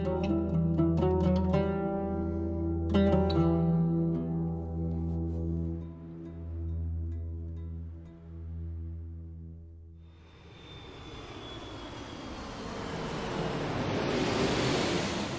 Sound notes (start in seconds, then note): 11.0 plane roaring